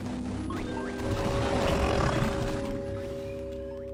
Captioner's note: curious music plays; Kaufmo growls